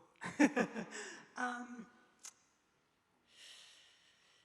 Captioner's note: laughing